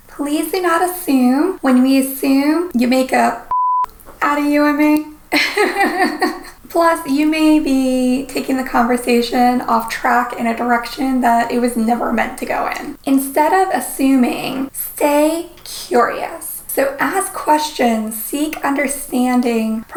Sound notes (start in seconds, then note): 3.4 beep; 5.3 laughs